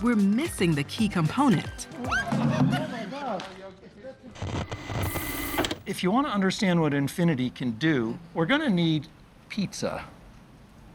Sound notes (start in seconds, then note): 2.1 squeals, laughs; 4.4 crew exclaiming